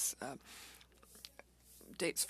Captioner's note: speaking French